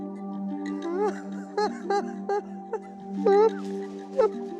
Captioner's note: sobbing